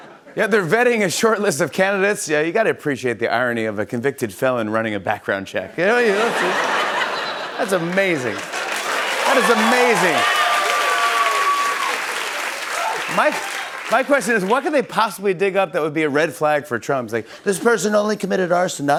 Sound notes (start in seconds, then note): 6.0 laughter; 11.2 cheers and applause